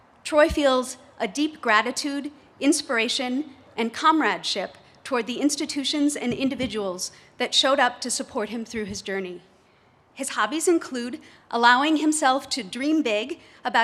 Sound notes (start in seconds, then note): none